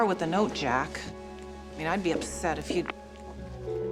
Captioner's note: phone clicks; dial tone